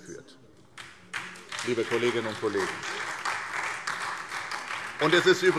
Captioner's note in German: Beifall SPD